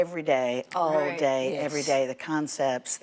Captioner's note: agreeing mumbles